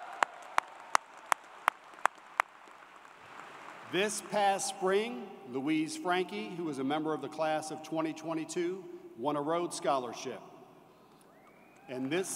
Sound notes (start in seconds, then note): 0.0 applause; 5.4 applause